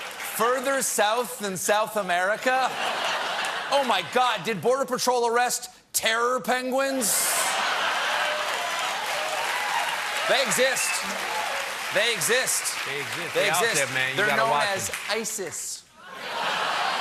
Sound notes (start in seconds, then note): 7.4 laughter; 7.5 applause